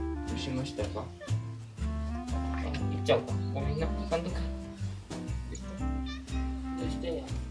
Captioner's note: cries